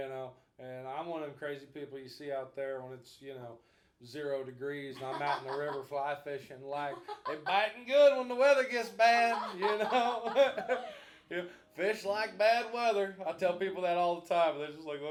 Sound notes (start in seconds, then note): 8.9 both laughing